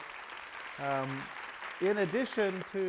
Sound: applause

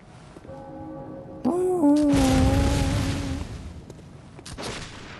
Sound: the sound of the bell

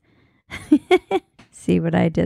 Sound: laughing

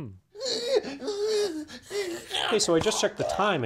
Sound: pained noises

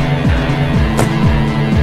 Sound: bam

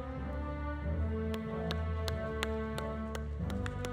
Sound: audience applauding

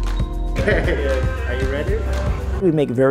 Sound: chatter

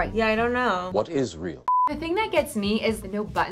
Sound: beep

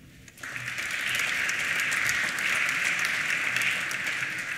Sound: applause

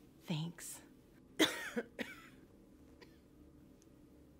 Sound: woman coughs

